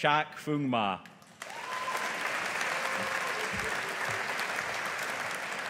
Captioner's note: audience applauding